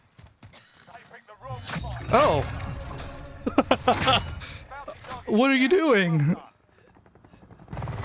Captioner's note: laughing